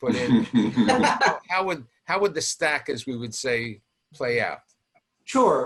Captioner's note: guests laughing